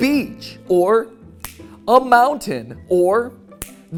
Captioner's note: snap; snap